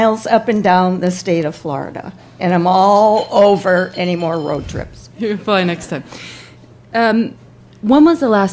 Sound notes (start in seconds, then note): 4.6 laughs